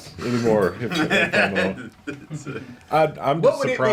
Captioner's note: laughing